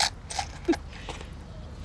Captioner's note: laughs